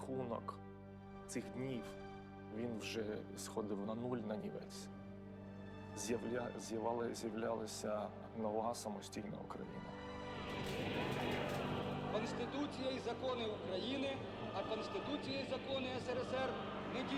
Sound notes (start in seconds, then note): 10.2 crowd cheering